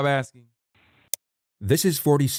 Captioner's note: click